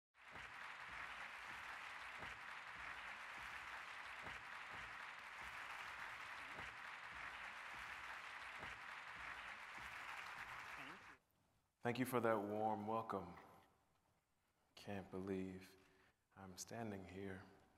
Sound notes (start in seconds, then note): 0.0 applause